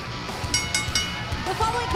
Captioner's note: bell ringing